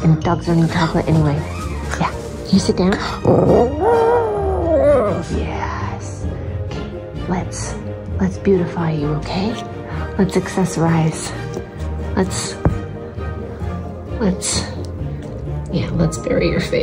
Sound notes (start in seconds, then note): 3.0 howling